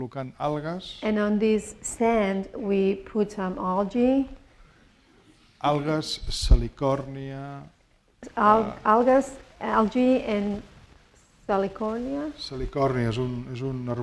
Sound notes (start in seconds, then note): 6.7 speaking spanish; 13.0 speaking spanish